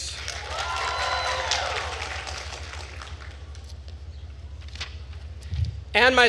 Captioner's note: attendees cheering and applauding